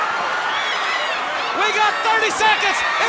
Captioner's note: crowd cheering